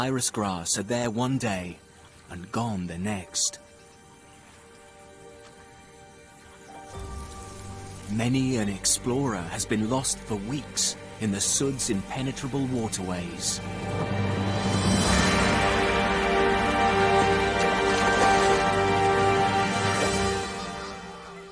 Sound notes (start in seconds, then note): 6.1 dramatic music; 13.1 birds squawking; 21.3 insects buzzing; 21.3 tense music